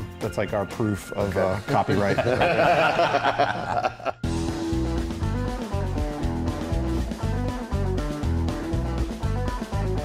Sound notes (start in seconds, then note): 1.7 band laughing; 4.6 country music playing